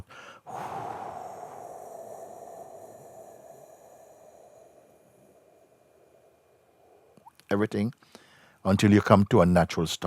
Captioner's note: exales very slowly